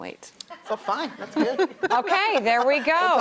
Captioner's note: laughs